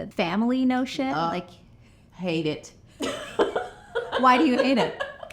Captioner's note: laughs